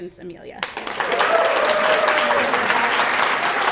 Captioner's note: applause